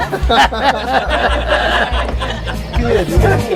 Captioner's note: men laughing